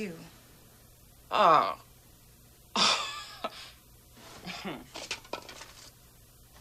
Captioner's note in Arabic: تتنهد